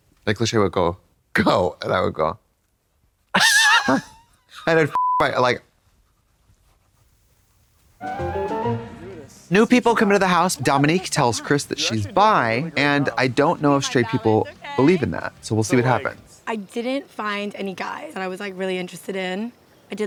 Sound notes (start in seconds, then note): 3.3 Katya titters; 4.9 beep; 8.1 whimsical chime